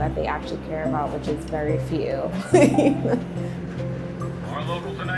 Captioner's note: laughs